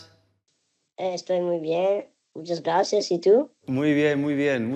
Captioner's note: in spanish